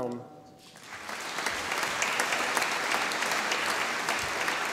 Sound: audience applauding

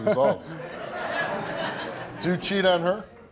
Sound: laughing

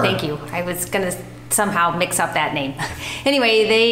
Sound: chuckles

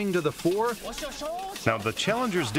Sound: speaking chinese

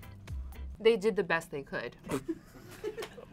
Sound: laughs

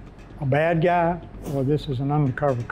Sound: whooshing

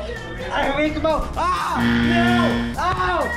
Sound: buzzer ringing

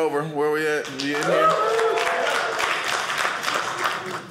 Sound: audience cheering

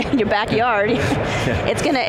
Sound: laughing

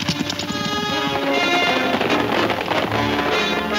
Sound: hooves thundering

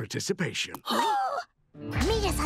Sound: gasping

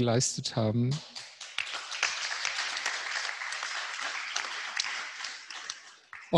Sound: applause

